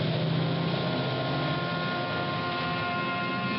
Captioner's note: car engine starting